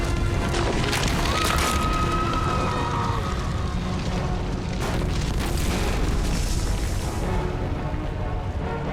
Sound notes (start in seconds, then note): 1.1 scream